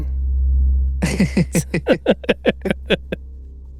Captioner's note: both laughing